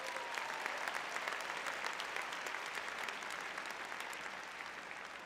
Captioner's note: audience applauding